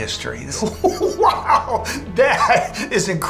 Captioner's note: laughs